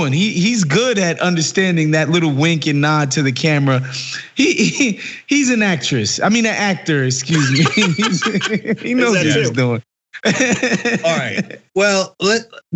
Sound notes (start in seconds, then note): 7.2 laugh